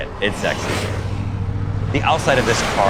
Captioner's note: car whooshing